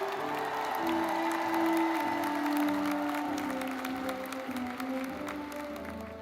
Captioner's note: audience cheers and applauds